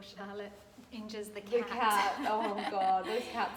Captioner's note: laughs